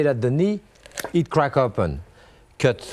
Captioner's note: bone cracks